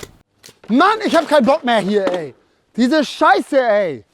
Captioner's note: Schweißgeräusche